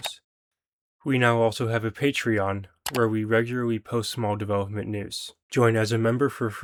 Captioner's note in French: en anglais